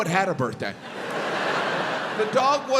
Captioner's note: audience laughs